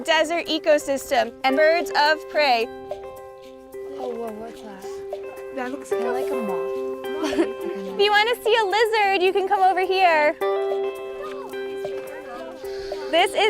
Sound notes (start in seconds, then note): 3.8 children speaking to each other